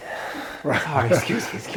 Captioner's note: laughing